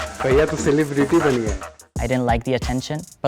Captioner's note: speaking Hindi